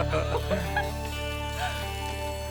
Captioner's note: laughs